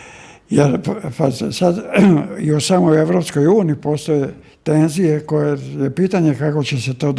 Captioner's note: coughs